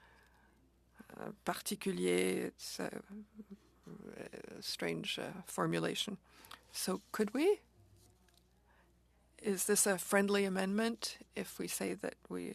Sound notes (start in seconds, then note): 6.9 speaking French